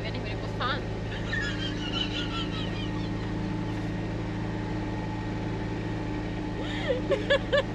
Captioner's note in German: lachen